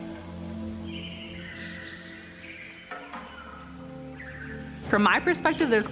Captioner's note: birds chirping